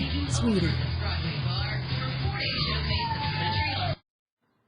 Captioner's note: TV continues playing; Ella howls